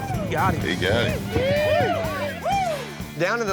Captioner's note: cheering